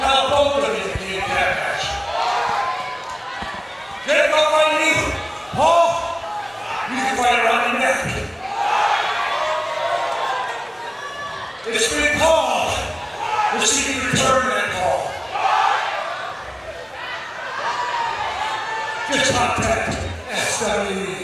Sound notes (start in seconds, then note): 15.7 crowd